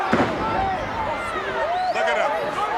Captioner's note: Savage thudding